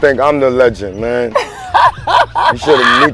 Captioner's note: laughing